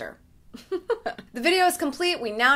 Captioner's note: laughs